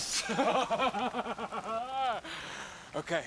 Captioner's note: Noah laughing